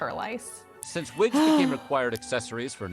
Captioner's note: sighing